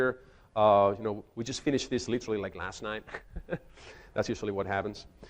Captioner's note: chuckles